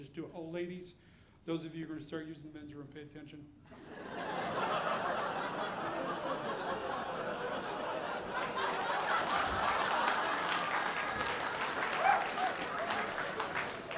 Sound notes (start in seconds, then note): 3.7 audience laughing; 9.0 audience applauding